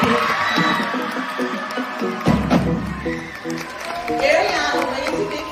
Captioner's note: cheering, applause